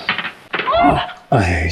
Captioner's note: gasps